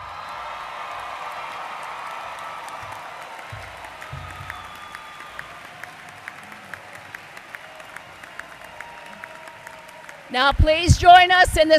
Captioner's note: applause